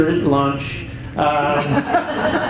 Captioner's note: chuckles